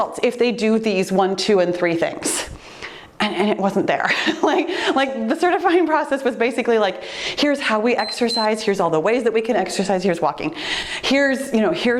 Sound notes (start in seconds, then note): 4.0 giggling; 8.0 timer beeps